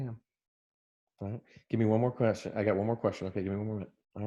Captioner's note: murmurs